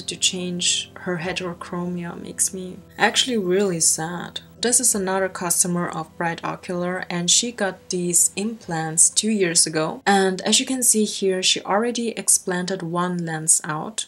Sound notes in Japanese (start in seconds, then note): none